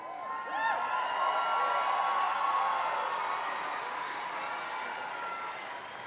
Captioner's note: cheers and applause